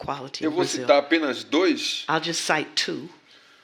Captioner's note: speaking portuguese